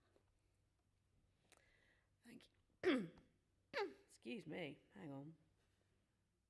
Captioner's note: cough